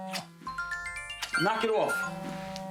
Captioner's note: telephone ringing